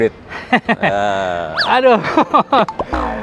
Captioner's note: laughing Nervously